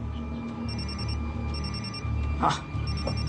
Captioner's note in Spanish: Suena el celular